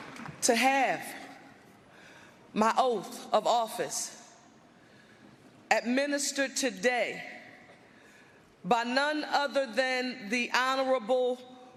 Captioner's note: applause